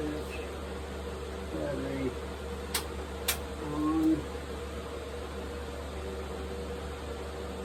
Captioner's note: click